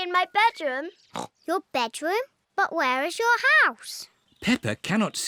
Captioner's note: snorts